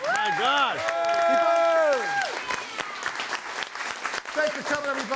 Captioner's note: audience cheering and applauding